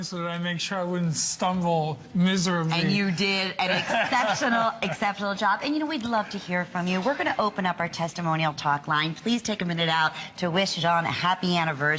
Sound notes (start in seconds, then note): 3.6 laughter